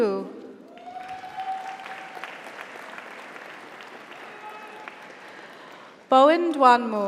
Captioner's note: audience applauds; audience cheers